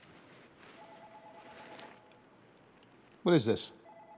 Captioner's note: telephone ringing